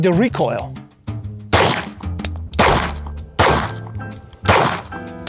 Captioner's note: pistol firing